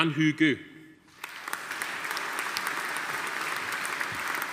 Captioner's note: audience applauding